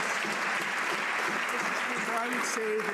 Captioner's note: some Applause